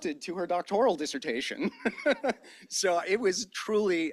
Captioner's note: laughs